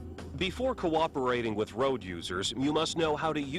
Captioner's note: voiceover